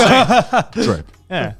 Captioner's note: laughs